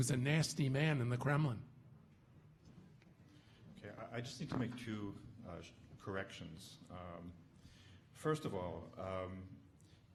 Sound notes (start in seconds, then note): none